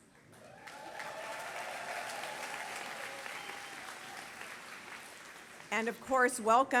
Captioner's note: applause